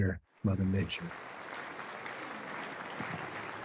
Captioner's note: applase